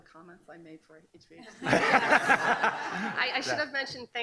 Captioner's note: laughing